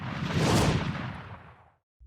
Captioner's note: logo whooshing